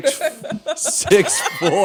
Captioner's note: laughter